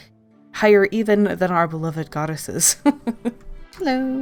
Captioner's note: laughs